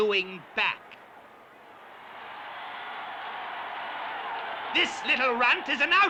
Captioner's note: crowd cheering